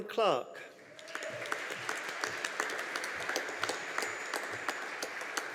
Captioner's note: audience applauding